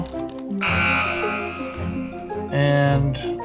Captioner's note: buzzer